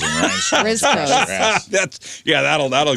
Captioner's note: laughing